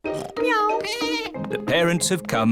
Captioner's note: meows; snorts; bleats